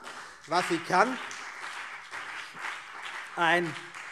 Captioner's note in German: Beifall CDU und BÜNDNIS 90/DIE GRÜNEN